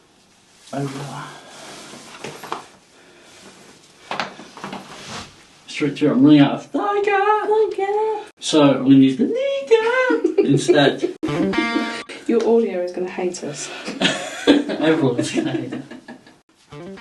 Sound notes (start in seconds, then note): 9.8 person laughing; 11.2 groovy guitar music; 13.8 people laughing